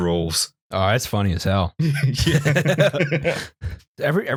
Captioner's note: laughter